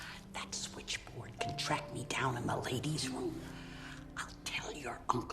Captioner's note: whispering